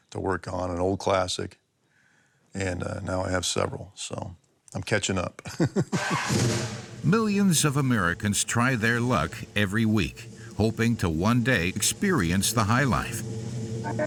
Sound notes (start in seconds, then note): 6.6 engine revs; 7.0 laughs; 13.8 dramatic music